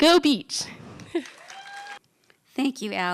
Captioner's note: applause